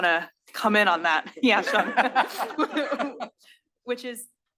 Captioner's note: laugh